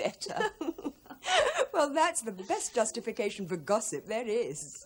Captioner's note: giggling